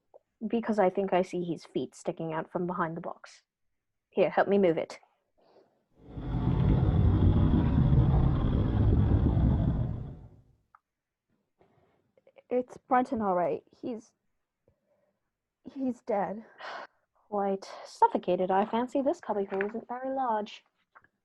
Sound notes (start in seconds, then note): 5.7 box scrapes on floor